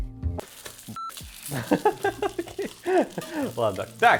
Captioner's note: laughter